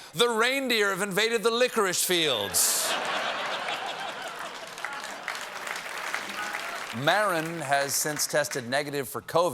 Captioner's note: laughter